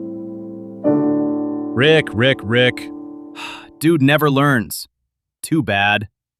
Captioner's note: sighs